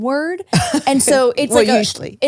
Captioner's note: laughs